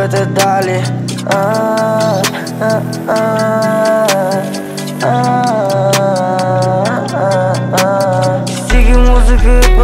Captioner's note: Aah,aah,ahh,ahah